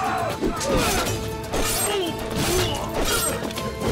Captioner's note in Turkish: Kılıç sesleri